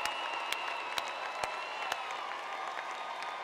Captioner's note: applause